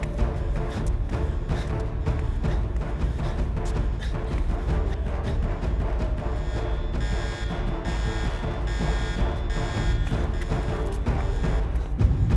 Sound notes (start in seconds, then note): 0.1 dramatic music; 0.4 Daniel gasping; 6.1 alarm blaring; 6.7 dramatic music